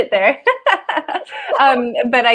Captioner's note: laughs